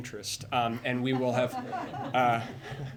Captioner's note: laughter